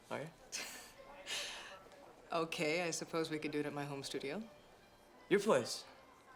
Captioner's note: laughs